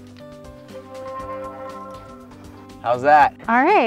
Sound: tone ringing

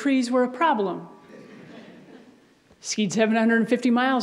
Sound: audience laughs

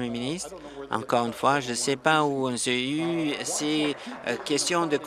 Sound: applause

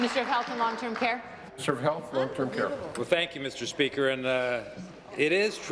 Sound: applause

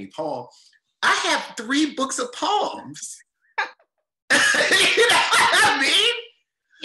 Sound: chuckles loudly

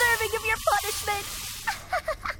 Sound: laughs

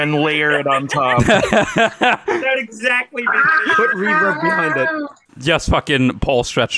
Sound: group laughter

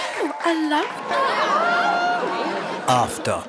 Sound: audience applause & laughter

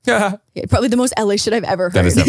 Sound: laughs

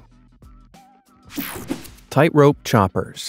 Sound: screen whooshing

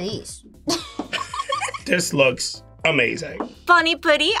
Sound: both giggle

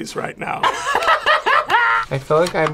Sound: laughs

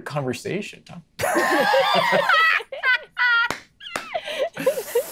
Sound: players laughing

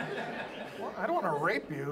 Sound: audience laughs

